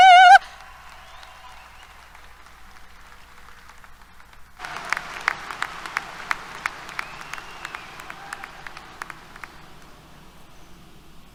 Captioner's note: applause